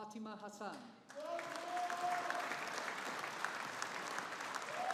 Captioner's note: audience applauding